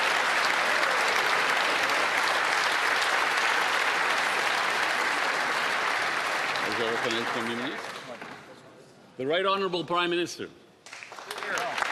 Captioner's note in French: applaudissements